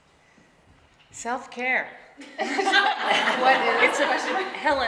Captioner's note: laughing